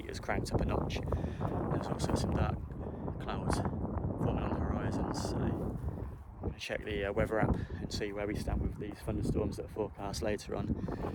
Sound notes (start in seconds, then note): none